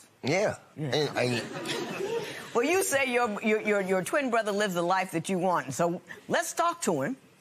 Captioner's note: chuckling